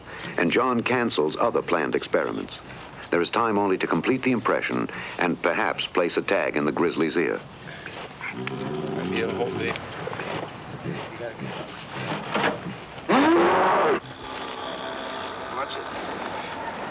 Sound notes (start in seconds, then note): 8.2 groaning; 13.0 roars